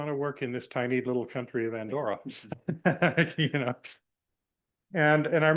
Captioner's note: laughs